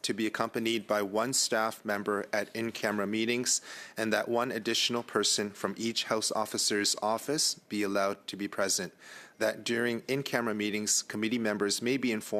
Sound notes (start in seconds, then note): 1.2 speaking French